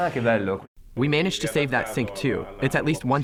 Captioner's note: through translator